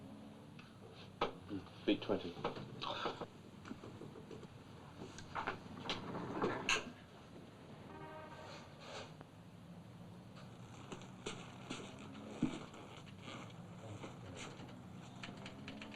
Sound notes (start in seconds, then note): 2.8 scoffs